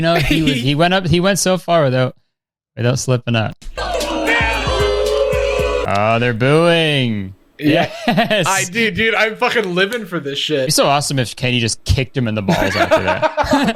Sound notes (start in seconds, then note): 3.6 crowd boos